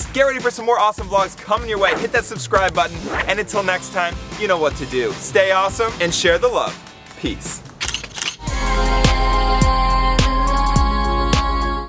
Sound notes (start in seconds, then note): 7.8 camera snaps; 8.7 upbeat music